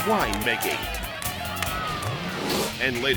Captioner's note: spectators cheering; upbeat music continues